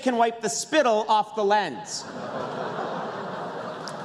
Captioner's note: laughter